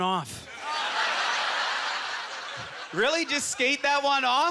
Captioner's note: audience laughter